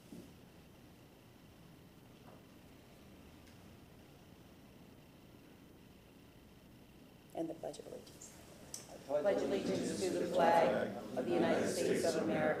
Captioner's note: moment of silence